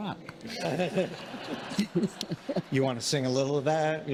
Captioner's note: congregation laughing